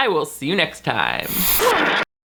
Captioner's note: static crackling